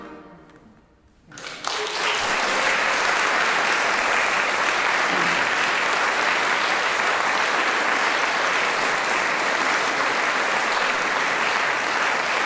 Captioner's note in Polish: aplauz